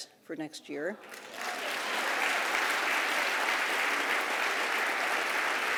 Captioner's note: applause